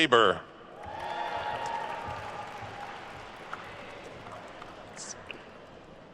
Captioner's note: attendees cheering and applauding